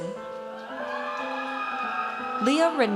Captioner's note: audience cheers